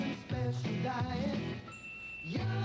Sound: ding!

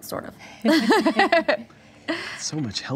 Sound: laughing

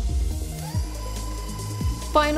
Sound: stand mixer whirring

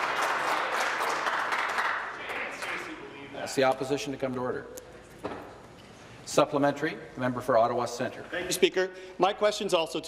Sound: applause

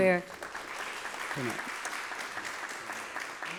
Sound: applause

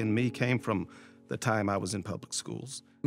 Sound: none

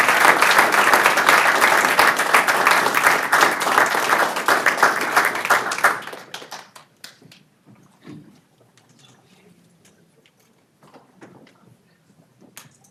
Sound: applause

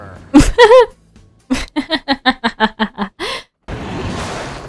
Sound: laughing

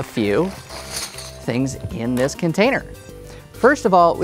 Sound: objects rattle

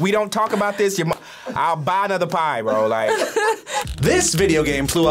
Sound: laughs

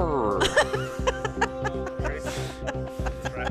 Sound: laughing

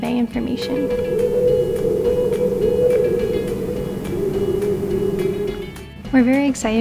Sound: sound changes in tone as the light bulb brightness changes

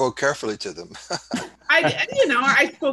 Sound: laughing

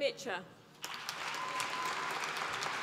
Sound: applause

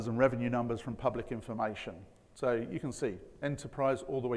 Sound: none

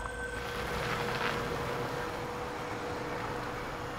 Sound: insects chirping

